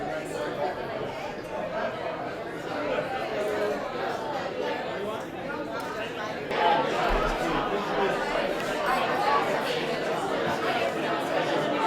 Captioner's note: general chatter